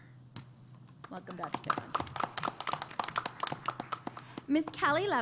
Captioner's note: applause